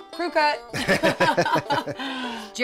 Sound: laughing

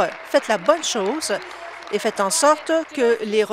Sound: applause

